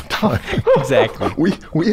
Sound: laughter

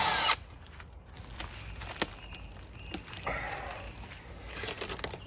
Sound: peeling back plastic

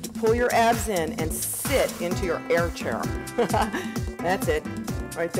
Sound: laughs

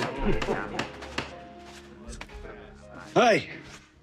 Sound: SOUND: laborers laughing

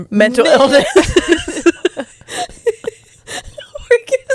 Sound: panel laughing

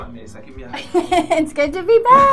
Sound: laughing

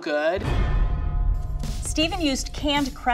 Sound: percussive hit

